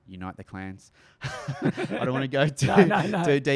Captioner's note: laughs